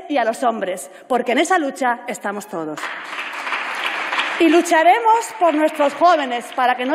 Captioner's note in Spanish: Aplausos